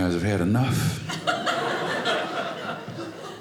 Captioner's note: audience laughing